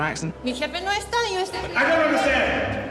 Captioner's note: speaking spanish